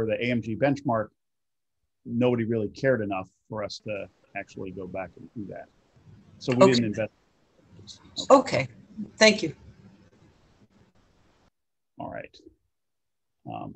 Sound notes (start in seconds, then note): 7.7 soft Voice